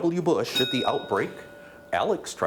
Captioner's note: bell dings